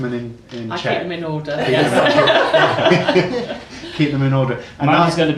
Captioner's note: laughing